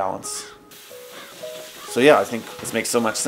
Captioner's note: water spraying